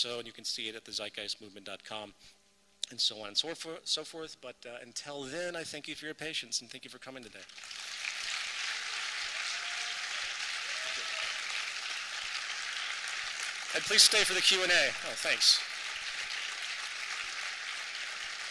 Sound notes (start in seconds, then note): 7.3 applause; 15.1 continuing applause